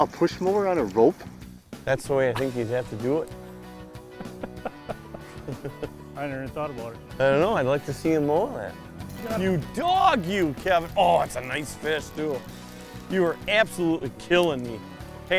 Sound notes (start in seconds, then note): 4.1 laughter